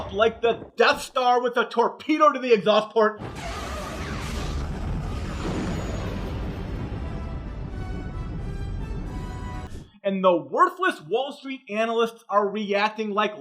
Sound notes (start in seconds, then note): 3.2 Death Star explodes; 6.9 rousing music